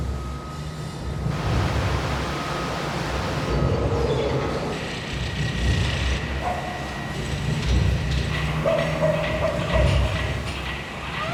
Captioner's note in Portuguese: barulho de construção